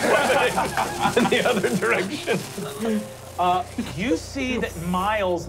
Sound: laughing

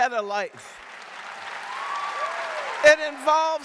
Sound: audience cheering and applauding

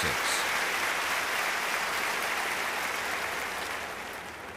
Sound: applause

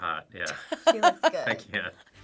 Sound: React laughs

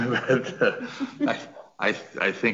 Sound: several laughing

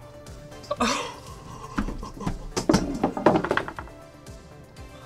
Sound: laughs

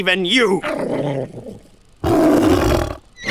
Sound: growls; roars back

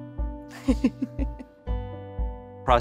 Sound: laughs

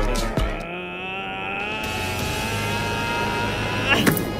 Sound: shouting and getting ready to attack

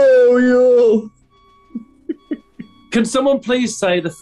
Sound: giggling

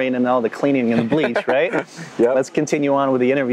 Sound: laughing

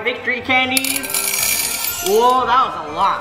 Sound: candy jingling

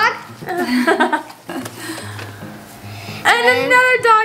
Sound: giggles

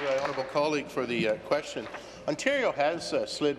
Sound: applause

